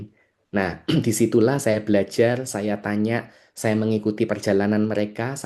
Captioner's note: berdehem